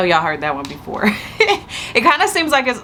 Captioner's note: chuckles